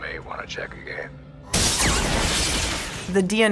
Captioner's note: explosions sounding